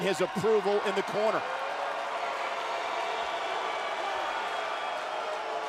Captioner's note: audience cheers